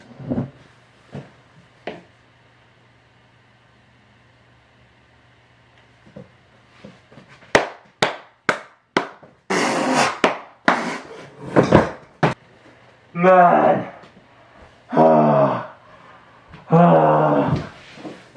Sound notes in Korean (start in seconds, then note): 15.4 거친 숨소리 x2; 15.7 거친 숨소리